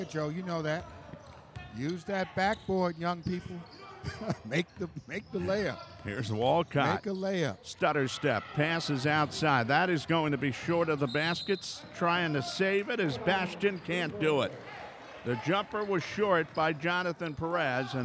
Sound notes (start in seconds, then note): 4.0 laughs